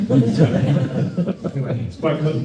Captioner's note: crowd laughs